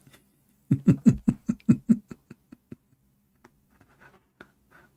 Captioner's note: Ketawa